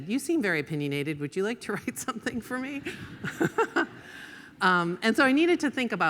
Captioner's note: laughs